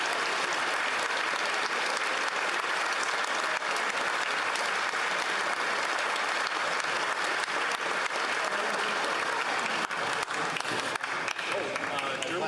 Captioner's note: applause